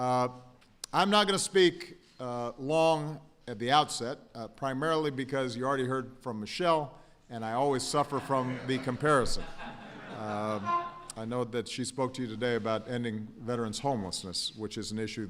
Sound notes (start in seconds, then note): 8.0 laughter